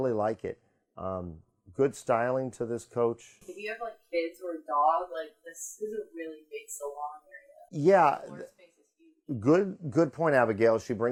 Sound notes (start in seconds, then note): 9.0 faintly speaking